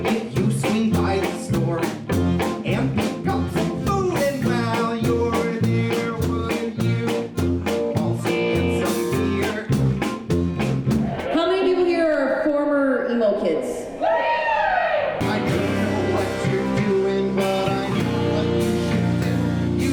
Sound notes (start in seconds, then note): 13.8 crowd yells